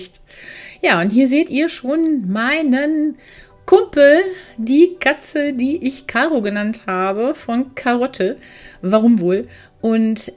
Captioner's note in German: japst